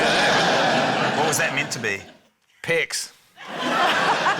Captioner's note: laughter